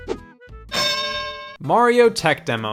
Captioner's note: bell dings